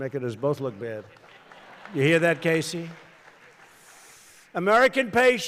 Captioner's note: laughter